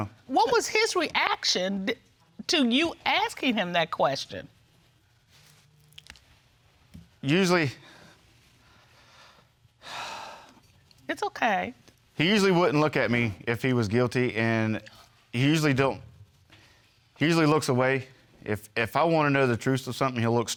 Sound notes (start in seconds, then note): 9.8 exhales deeply